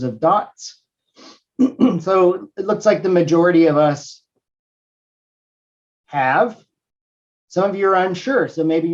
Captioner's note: cough